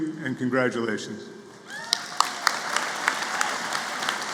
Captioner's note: applause